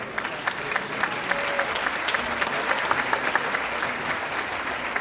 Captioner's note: audience applauding